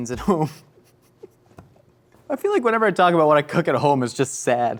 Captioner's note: laughs